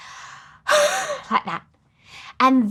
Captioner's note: huffs